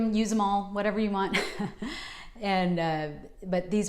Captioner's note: chuckles